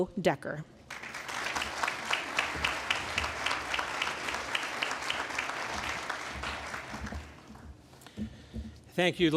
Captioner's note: applause